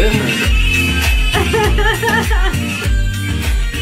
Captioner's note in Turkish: Gülüyorlar